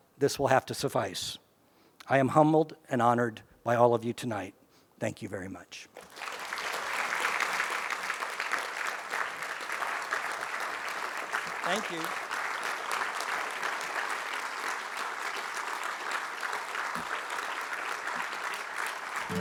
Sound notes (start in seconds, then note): 6.8 applause